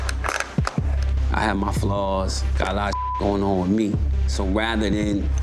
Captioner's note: beep